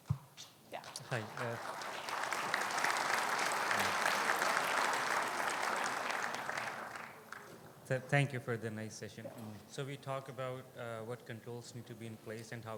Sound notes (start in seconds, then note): 2.6 audience applauds